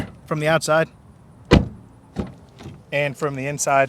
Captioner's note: slams door